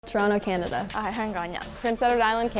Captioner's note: non-english speech